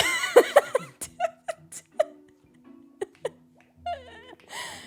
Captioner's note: laughs